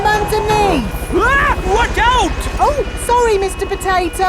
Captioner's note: screams